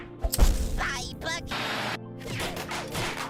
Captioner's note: none